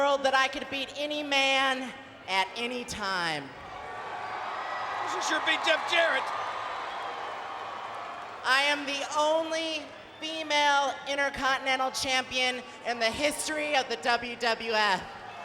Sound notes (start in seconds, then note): 3.6 crowd cheering